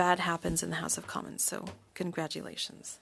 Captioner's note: speaking French